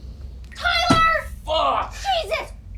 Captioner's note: static buzzing; Tyler's head thuds